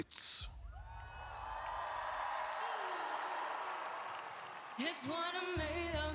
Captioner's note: Applåder